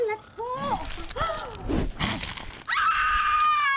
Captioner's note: flesh squishing; miss gudi gasps; miss gudi screaming